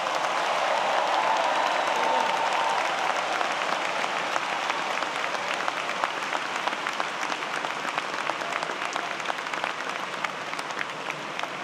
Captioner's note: applause